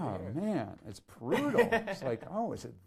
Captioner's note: laughs